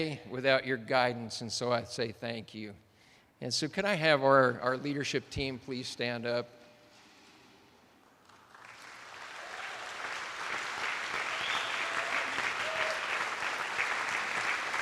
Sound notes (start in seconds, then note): 8.2 attendees applauding